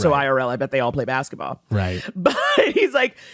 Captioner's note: laughs